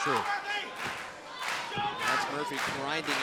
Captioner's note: crowd cheering